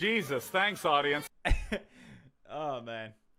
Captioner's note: laughs